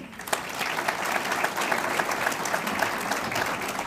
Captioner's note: audience applauds